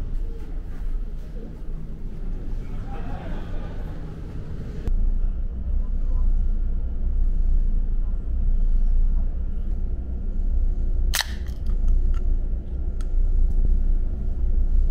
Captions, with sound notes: Phew, it was very refreshing. Relax with sweets and chuhai. (Laughs) I don't drink sweet sake, but occasionally.